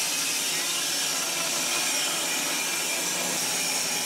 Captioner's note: saw whirring